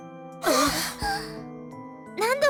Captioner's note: horrified gasp